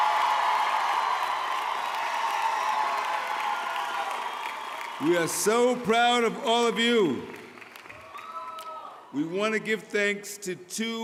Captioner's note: cheering